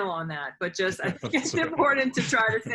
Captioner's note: laughter